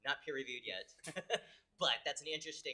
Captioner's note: laughs